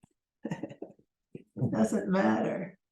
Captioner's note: laughs